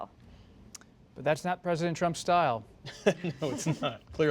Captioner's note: laughter